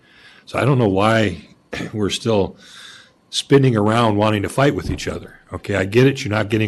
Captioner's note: clears throat